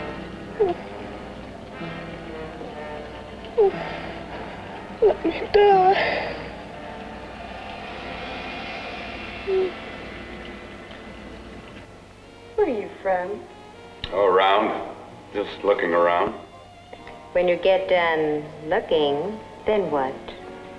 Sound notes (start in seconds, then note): 0.5 whimpering